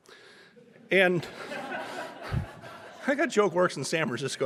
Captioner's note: audience laughing